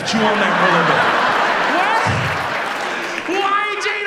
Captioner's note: audience laughs